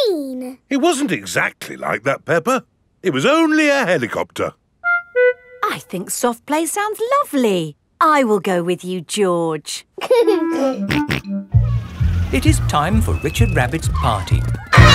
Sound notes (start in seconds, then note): 10.2 giggling and snorting